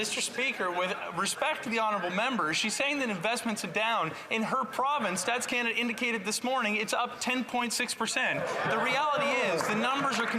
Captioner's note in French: voix de l'interprète